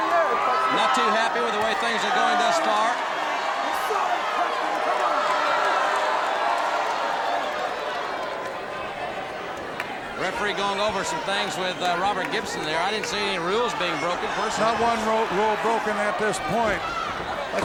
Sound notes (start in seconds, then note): 4.7 audience booing